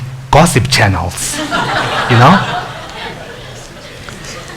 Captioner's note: laughing